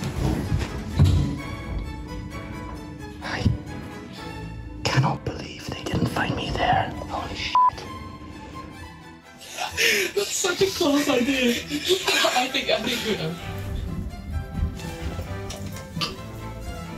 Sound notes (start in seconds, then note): 3.0 whispering; 9.4 giggling and chatting indistinctly